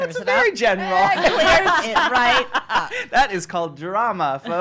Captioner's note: laughing